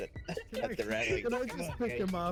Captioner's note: laughs